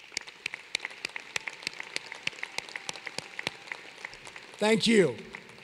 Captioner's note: applause